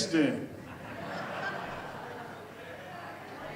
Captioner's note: audience laughs and chatters